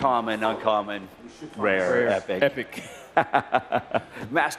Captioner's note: laughter